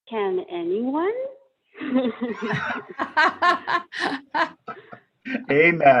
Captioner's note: laughter